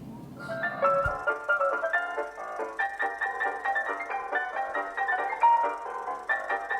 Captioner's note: uptempo ragtime music; film reel catling